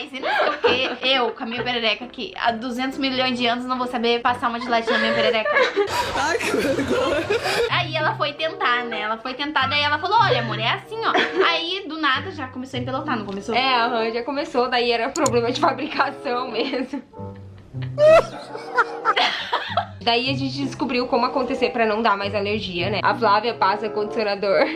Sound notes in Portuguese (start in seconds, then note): 17.6 risos